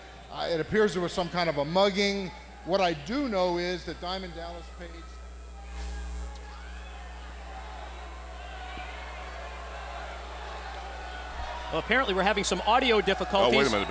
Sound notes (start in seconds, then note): 7.0 crowd chatter